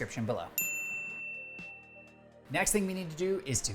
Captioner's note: bell dings